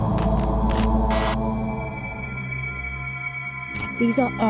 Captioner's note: eerie echoing static